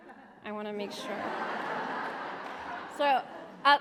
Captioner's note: laughter